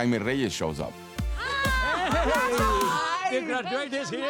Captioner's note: cheers, laughter